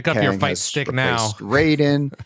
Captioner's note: laughs